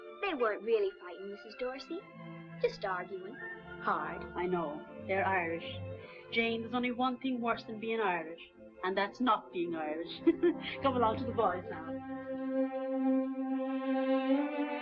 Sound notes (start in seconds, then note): 10.2 laughs; 12.3 gentle music